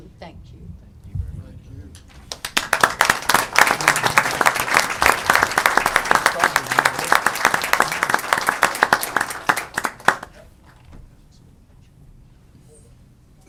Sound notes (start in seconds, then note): 2.0 applause